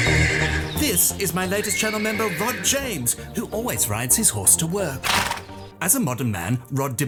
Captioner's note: horse snorts